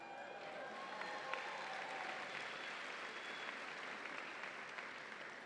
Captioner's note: audience applauds and cheers